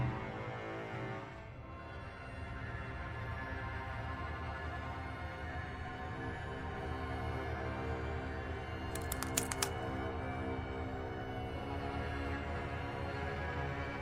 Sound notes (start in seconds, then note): 8.9 cracking neck